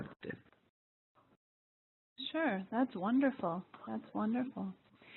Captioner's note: pause